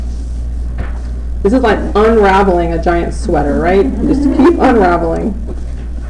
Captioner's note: laughter